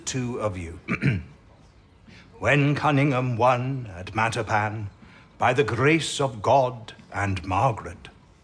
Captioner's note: he clears his throat